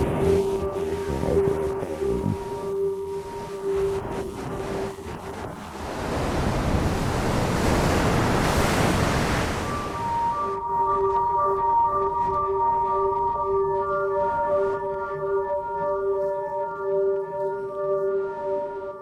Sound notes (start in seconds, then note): 5.8 surf crash